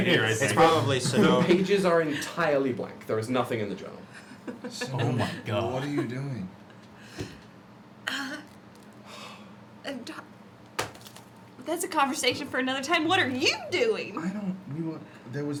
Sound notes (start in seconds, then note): 4.5 laughs